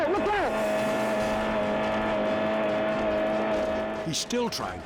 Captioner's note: car revving